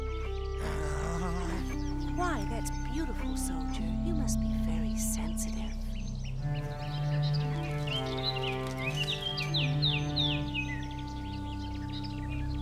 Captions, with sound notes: (grunting) - Why, that's beautiful, soldier. You must be very sensitive. (cello music)